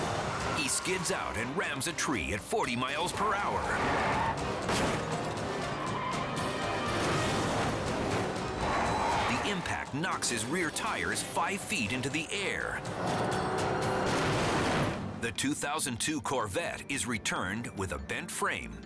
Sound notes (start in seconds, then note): 4.1 dramatic music; 4.1 tires screeching